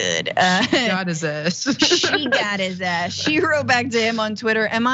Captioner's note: laugh